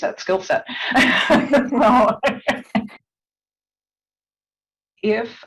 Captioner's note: laughter